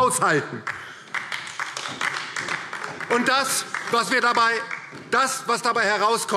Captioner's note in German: Beifall : Hey, hey!